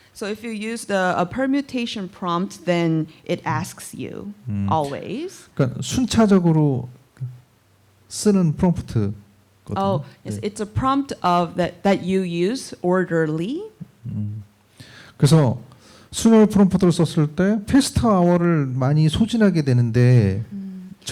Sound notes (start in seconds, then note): 5.6 speaking korean; 15.3 speaking korean